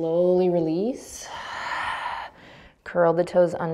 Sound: exhaling breath

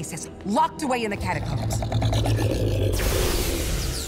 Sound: deep growl; electricity sizzling

